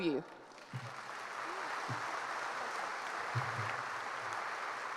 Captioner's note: applause